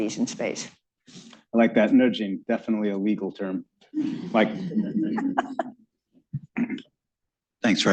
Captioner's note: laughter